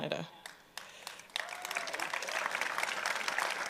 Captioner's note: applause